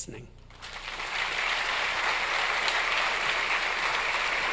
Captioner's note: audience applauds